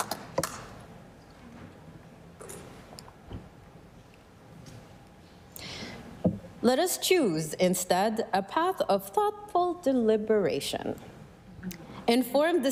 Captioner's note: applause